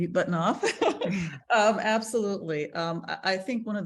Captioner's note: laughs